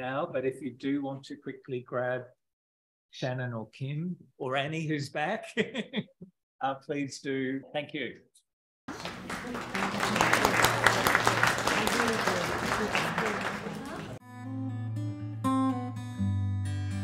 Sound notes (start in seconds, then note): 8.9 audience applauding; 11.9 speaking in foreign language; 14.3 gentle music